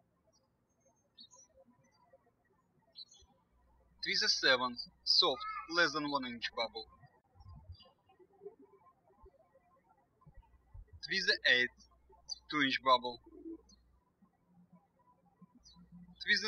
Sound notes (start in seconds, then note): 0.1 birds chirping; 7.6 birds chirping